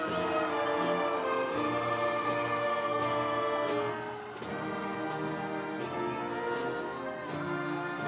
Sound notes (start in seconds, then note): 1.0 audience cheering